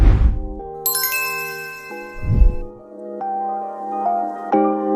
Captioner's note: logo sparkling